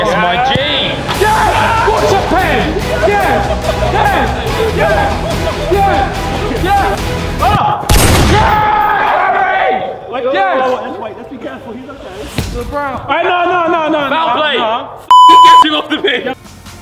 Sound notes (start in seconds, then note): 7.8 gun shoots